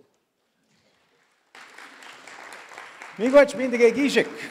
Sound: audience applause

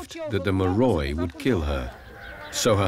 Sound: speaking in foreign language

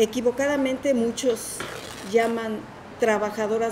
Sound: speaking in Spanish

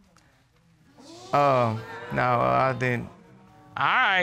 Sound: audience exclaiming

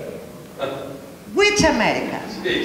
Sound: laughs

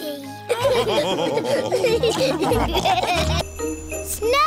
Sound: all laughing

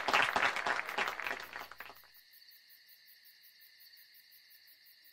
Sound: crickets chirping

